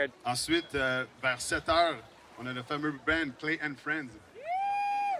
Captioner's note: emcee speaking foreign language